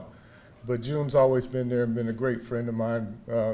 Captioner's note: none